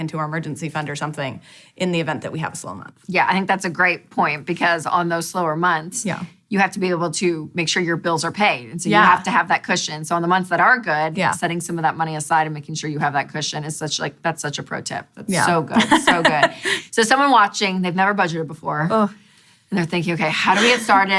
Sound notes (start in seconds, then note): 15.7 laughing